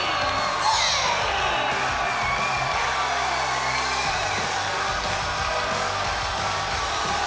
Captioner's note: crowd cheers; upbeat ska music